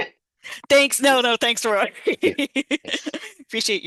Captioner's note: laughing